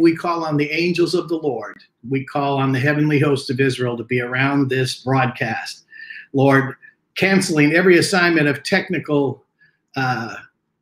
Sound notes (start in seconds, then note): none